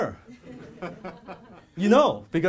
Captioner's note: audience laughs